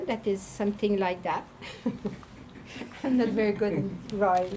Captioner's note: laughing